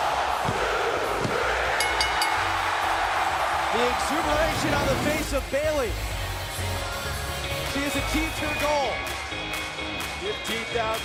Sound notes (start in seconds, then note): 0.0 crowd cheering; 1.7 bell ringing; 3.2 crowd cheering